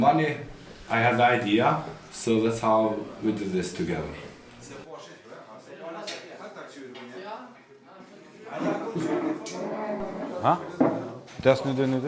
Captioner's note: crowd noise